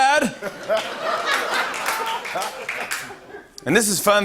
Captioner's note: laughter